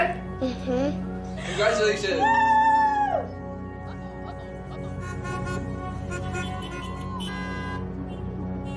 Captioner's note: car horns honking